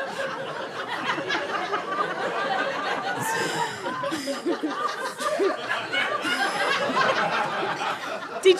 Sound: laughter continues

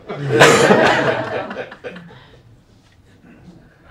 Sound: laughter

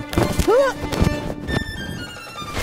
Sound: grunts; upbeat music continues

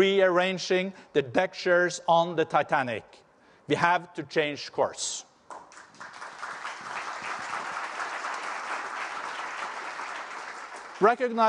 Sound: applause

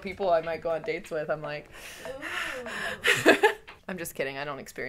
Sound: heavy breathing

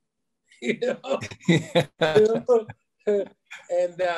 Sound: laughing

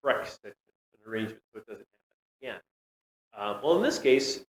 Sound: audio cuts out

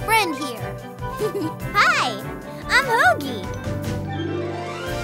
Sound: giggles

